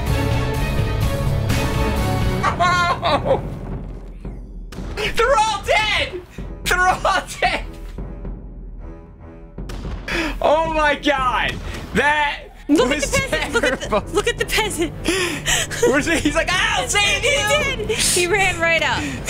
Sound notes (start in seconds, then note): 0.0 epic music plays; 2.6 noises of defeat